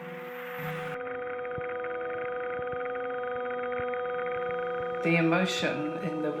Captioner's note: clicking sound